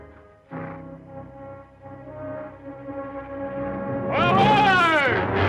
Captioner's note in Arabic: صهيل الحصان